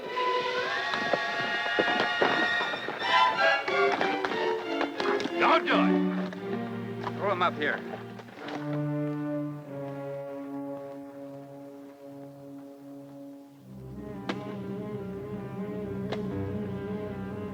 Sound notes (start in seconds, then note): 0.2 tense orchestral music; 14.2 guns thud